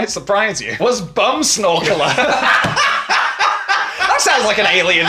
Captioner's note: all laughing